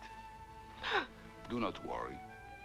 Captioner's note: Hundra gasps